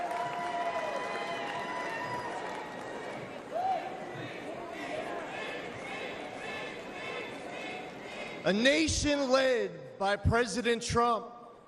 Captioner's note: cheering